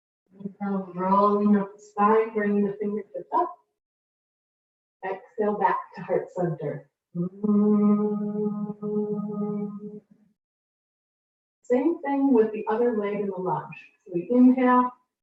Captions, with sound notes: Inhale, rolling up the spine, bringing the fingertips up. Exhale, back to heart center. [humming] Same thing with the other leg in a lunge. So we inhale.